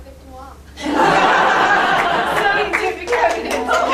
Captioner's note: laughter